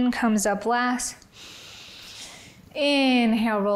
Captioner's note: inhales